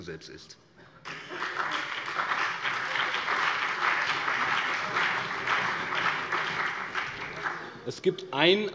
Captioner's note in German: Beifall BÜNDNIS 90/DIE GRÜNEN und CDU